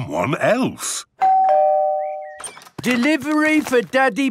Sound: door bell ringing

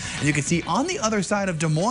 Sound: winds

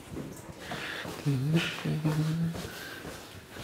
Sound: he hums to himself

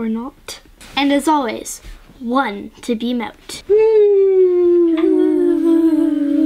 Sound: whooo

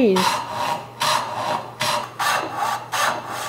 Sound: rasping

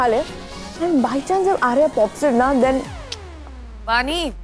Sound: tongue clicking

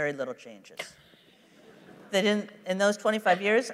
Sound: laughter

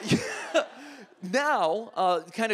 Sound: audience laughs

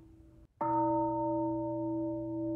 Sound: bell

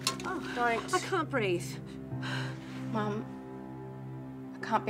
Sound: exhales

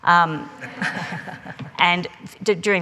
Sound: laughing

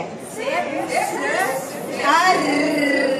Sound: C#, C+ whispered

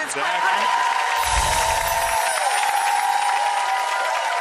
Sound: audience applauds; twinkling bells

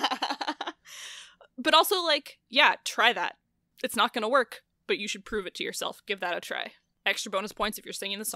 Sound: laughs

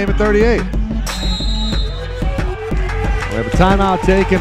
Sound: whistle blaring

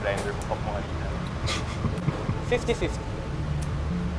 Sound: snickers

